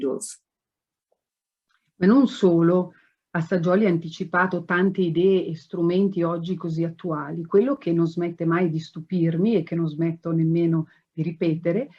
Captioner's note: speaks Italian